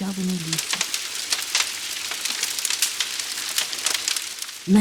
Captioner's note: forest fire sound